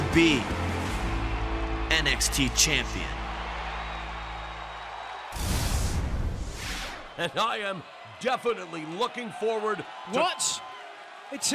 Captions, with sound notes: I WILL BE NXT CHAMPION. [CHEERS AND APPLAUSE] >> AND I AM DEFINITELY LOOKING FORWARD --